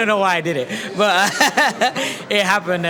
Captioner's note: laughs